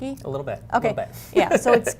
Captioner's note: laughs